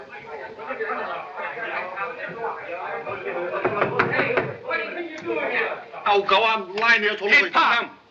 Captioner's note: commotion